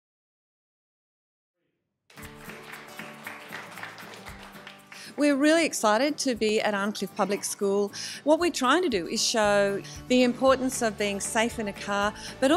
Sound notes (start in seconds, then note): 2.1 applause